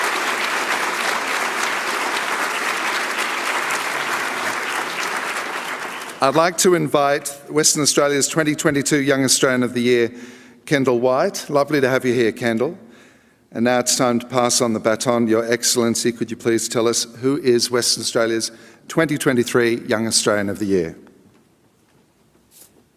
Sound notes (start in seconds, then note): 2.9 applause